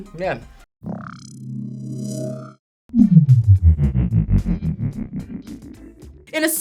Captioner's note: ominous hum